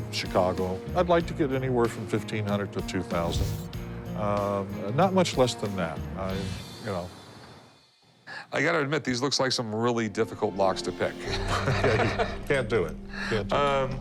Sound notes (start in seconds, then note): 11.3 laughs